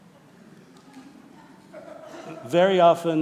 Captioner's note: people laughing